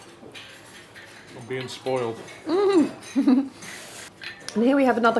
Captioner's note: chuckles